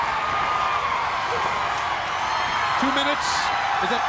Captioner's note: crowd cheering